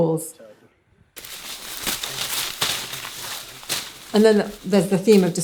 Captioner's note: leaves crunching